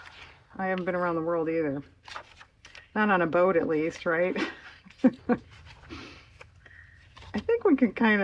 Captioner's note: laughs